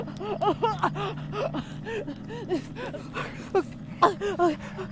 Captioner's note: Andrea coughing; Andrea gasping